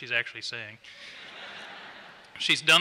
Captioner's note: laughter